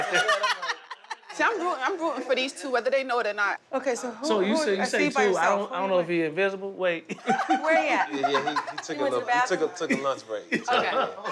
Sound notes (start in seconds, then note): 0.0 laughter; 7.1 laughter